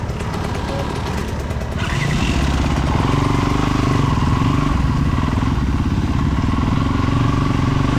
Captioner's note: engine revving